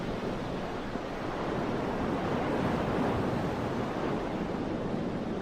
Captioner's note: waves splashing and rumbling